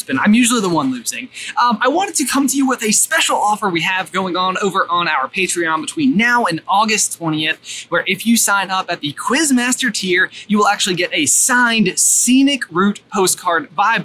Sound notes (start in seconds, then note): none